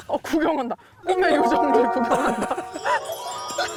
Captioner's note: passerby surprised sound; sound of admiring the writing